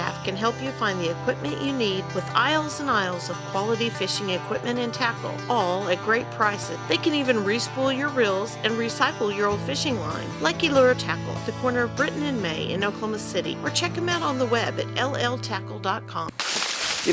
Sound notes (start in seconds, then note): none